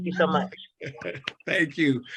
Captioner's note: laughs